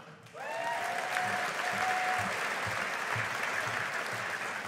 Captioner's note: audience applauding